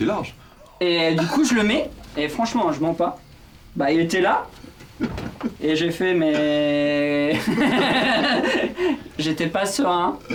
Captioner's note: laughs